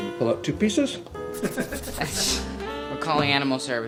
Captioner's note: light laughter and pencil scribbling